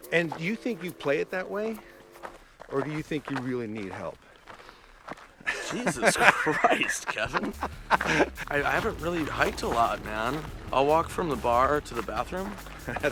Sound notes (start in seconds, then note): 7.3 laughing